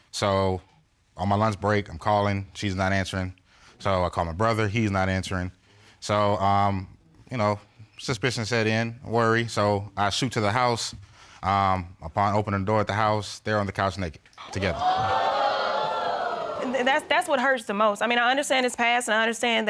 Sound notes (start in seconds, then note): 14.4 audience exclaiming